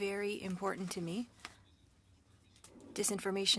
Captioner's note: speaking French